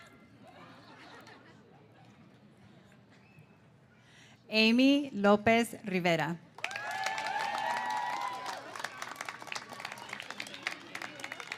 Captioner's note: laughter